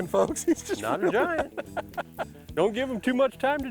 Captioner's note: cackling